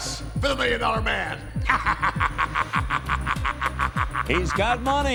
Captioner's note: laughing